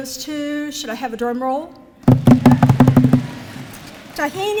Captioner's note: drumming on the podium